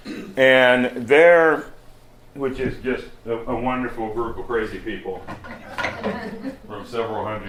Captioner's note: laughter